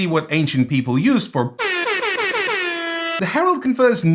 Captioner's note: DJ Airhorn sound effect